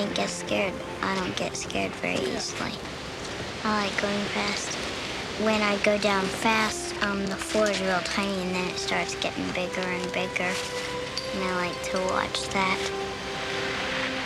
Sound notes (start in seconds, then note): none